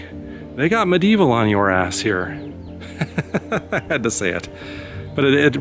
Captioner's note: laughter